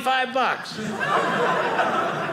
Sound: audience laughing

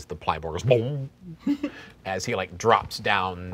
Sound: laughing

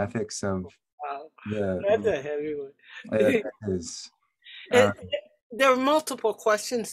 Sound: speaker speaking in a low tone

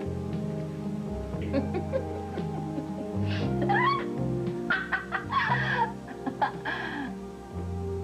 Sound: giggles

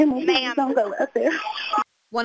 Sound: cryin

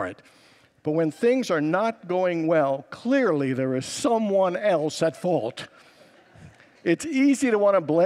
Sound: congregants laugh

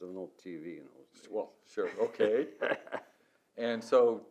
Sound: laughs

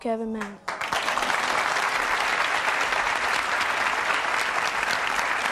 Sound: audience applauding

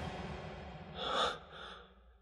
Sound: levi gasps

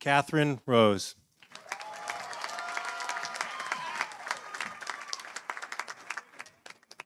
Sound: audience applauding; audience cheering

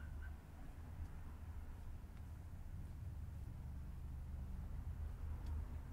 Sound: street noise

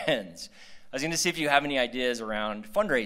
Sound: laughter

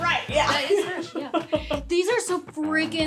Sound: laughing

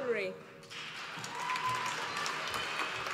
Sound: applause

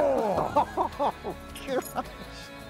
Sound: laughs

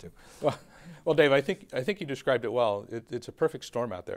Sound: chuckles

